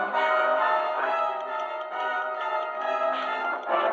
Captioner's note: ticking